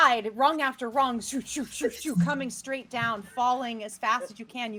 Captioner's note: imitates swooshing sound